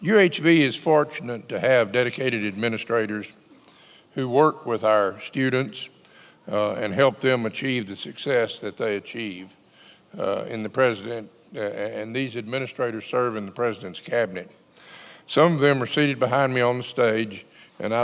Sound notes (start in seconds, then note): none